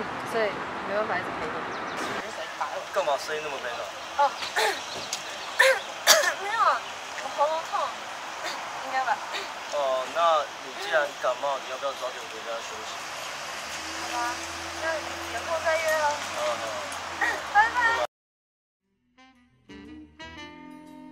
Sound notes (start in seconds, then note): 5.5 coughing; 5.5 咳嗽聲